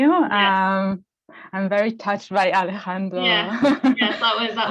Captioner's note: laughs